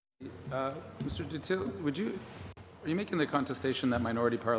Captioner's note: speaking French